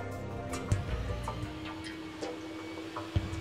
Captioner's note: saw whirring